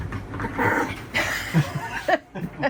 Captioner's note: Daisy growling; laughing